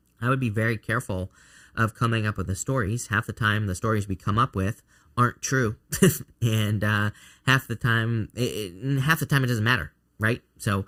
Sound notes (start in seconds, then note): 5.9 chuckling